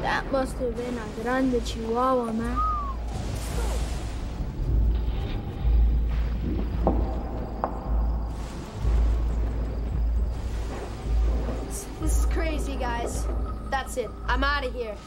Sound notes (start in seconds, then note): 2.4 whistles; 3.5 thunder